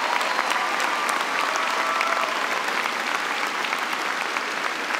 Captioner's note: cheers and applause